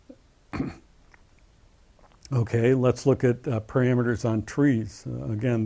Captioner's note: cough